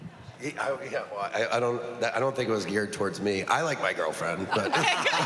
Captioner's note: stammering